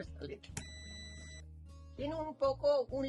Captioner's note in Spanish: sonido: piiiiii